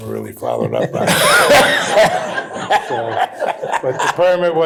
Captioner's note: laughter